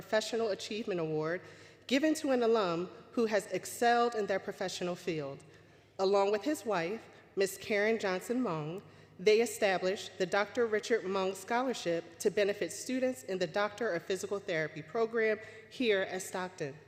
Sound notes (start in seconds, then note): none